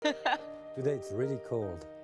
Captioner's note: laughing; serene music